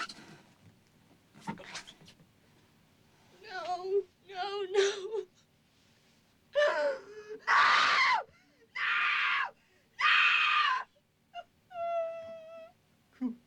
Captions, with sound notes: NO. NO, NO. [screaming] NO! [screaming] NO, NO! [sobbing]